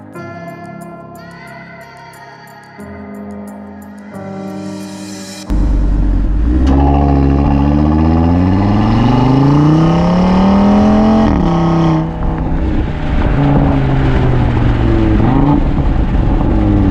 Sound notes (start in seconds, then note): 5.4 exhaust note